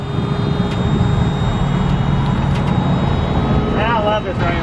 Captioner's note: engine whining